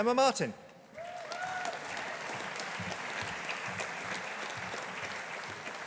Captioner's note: audience applauding